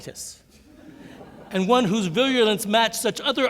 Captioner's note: laughter